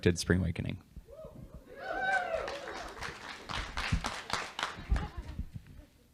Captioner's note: audience cheers